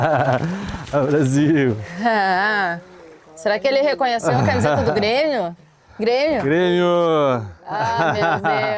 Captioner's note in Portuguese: risadas